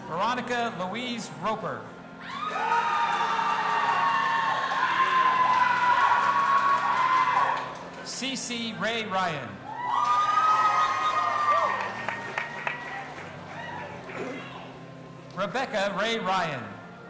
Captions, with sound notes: Veronica Louise Roper. (audience applauding and cheering) CeCe Rae Ryan. (audience applauding and cheering) Rebecca Ray Ryan.